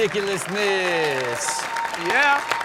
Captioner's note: audience cheers